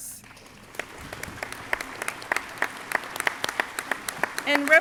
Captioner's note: crowd applauding